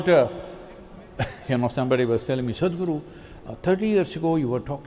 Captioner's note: few laugh